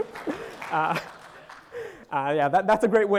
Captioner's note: audience applauding